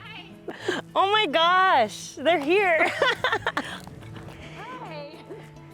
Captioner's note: laughs